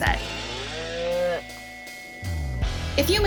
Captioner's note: cow mooing; energetic guitar music